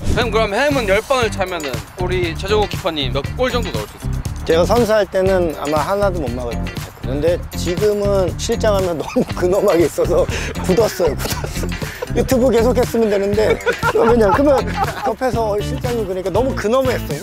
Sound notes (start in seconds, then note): 13.2 Lee talking incessantly